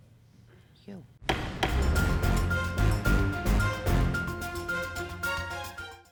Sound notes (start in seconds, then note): 1.2 gavel bangs; 3.3 upbeat dramatic music